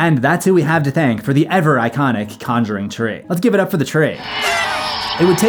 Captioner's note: cheer sfx